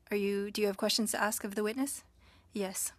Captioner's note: speaking French